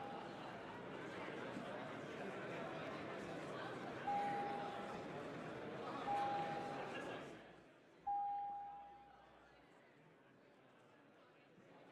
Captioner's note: bell ringing